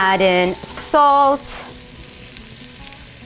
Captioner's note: sizzling